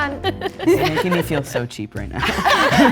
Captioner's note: group laughing